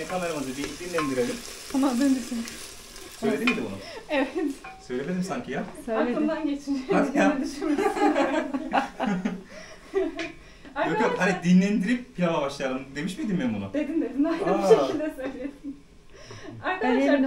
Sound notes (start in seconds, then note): 6.8 laugh